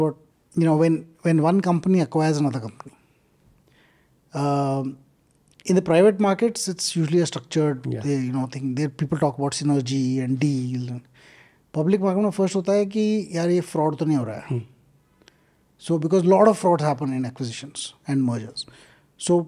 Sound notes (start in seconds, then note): 14.7 speaks in Hindi